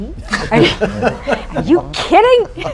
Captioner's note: laughter